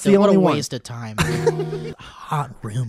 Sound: laughter

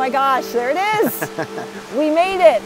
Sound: laughing

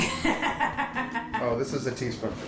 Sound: chuckles

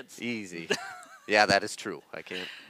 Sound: laughs

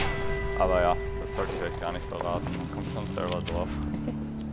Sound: chuckles

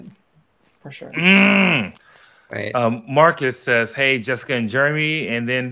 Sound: grunts

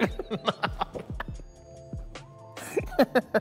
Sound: laughs

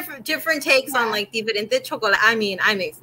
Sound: speaking foreign language

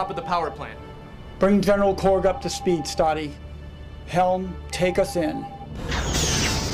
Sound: alarm; alarm

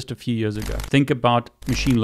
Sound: screen clicks

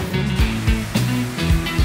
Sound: funky music; water spraying

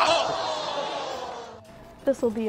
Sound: screaming; oohing

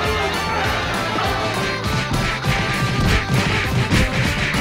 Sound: punching sounds

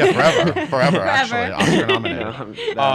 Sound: laughs

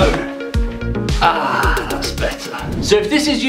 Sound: sits on toilet sigh of relief

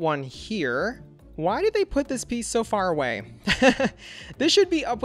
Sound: laughs

